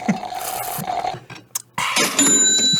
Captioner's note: slurping